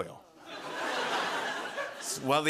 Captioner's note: laughter